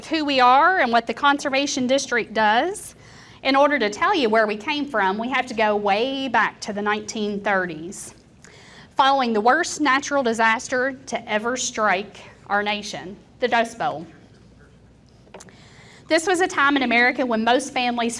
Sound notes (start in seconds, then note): none